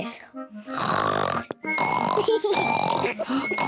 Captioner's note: both snore exaggeratedly; whispering